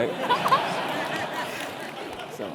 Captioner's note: laugh